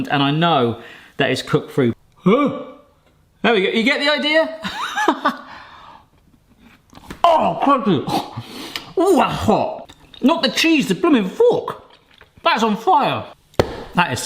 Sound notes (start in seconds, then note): 5.6 laughs